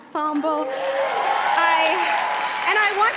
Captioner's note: cheering